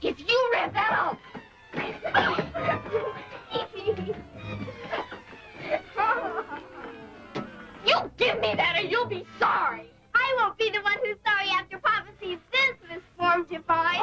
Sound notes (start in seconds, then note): 0.3 dramatic music; 1.8 laughs; 11.1 dramatic music